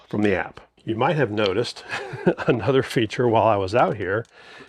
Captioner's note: laughs